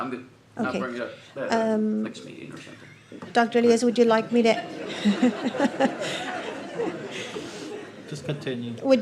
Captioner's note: laughter